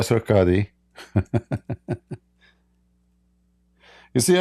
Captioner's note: Ketawa